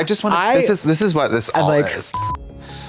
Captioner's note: TV static